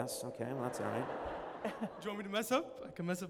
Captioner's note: laughter